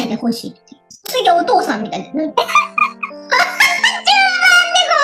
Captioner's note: laughs